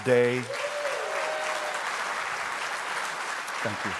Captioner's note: congregation applauds